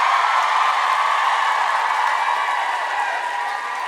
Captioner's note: audience scream